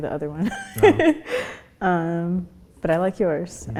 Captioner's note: laughs